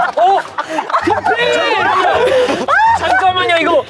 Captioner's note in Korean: Инээд